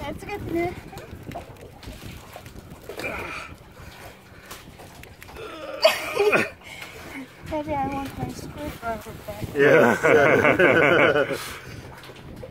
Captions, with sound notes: Its getting there. [STRAINING] Maybe I want my screwdriver back. Yeah. [LAUGHS]